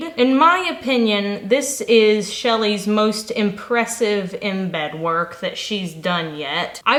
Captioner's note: none